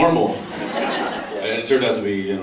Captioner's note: laughs